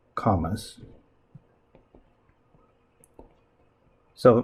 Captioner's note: writing Sounds